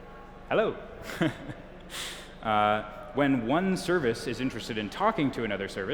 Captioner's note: chuckles